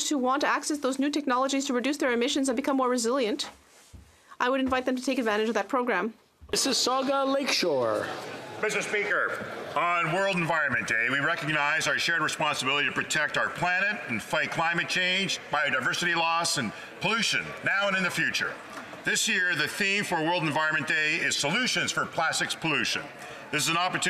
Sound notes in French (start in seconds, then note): 11.0 voix de l'interprète